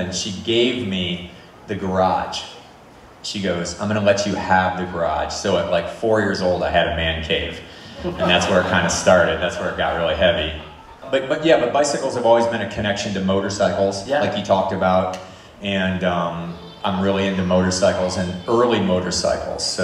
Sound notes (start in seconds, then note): 7.8 audience laughs